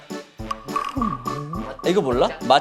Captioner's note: confused